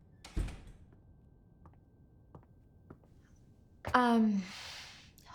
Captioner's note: door thudding